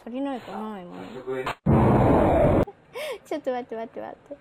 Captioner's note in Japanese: ドォォォン！